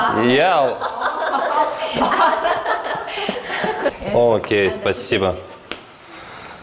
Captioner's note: laughing